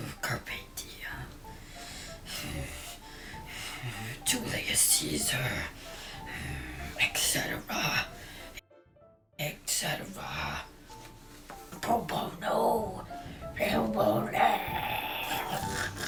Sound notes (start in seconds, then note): 0.0 heavy breathing; 14.6 throat croaking